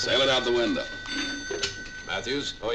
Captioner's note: phone ringing